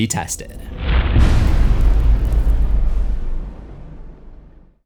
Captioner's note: impact